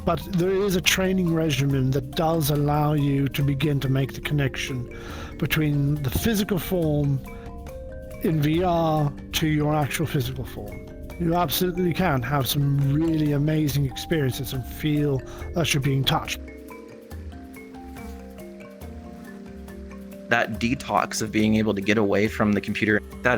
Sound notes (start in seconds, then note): 18.1 dragonfly buzzes; 18.1 river splashes